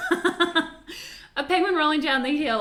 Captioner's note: laughs